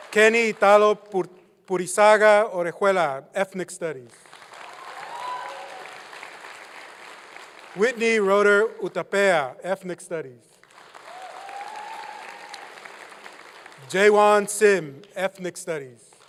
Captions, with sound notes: Kenny Italo Pur-- Purisaga Orejuela, Ethnic Studies. (applause) Woo! Whitney Roeder Urtapea, Ethnic Studies. Woo! (applause) Jaewon Sim, Ethnic Studies. Woo!